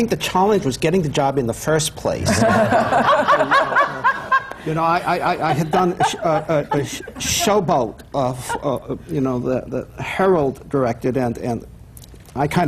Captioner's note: laughter